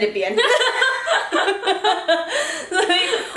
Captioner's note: laughter